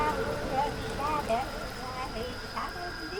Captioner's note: chanting a spell